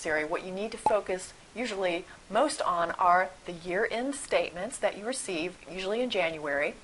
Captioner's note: pop